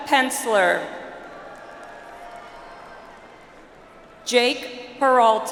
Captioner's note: audience applauds